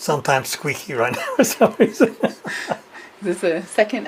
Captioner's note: laughs